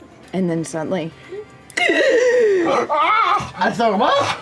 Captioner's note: gasps